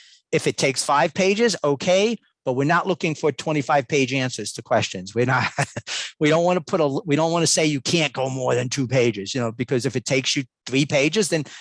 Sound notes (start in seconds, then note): 5.4 laughs